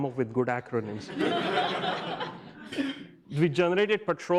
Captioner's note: audience laughs